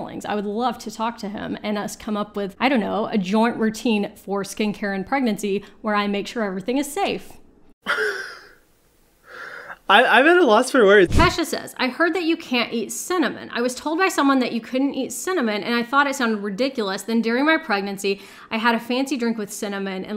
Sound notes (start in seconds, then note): 7.8 laughs